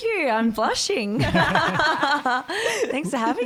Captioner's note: all laugh